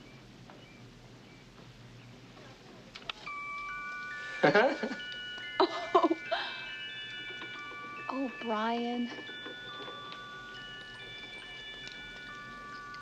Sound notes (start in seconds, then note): 5.6 Peggy laughs; 9.5 toy music continues